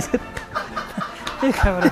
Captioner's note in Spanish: Risas de fondo